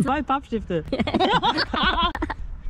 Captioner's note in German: gelächter